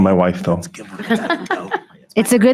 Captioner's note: member laughing